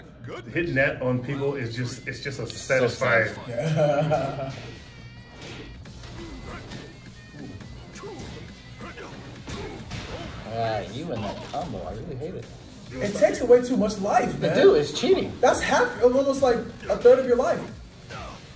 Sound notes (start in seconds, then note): 3.4 laugh